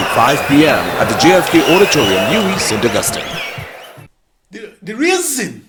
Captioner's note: wild applause and cheering for 22 seconds